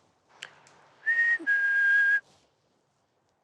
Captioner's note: whistling